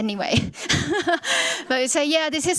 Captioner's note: chuckles